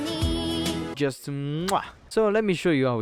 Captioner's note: italian kiss noises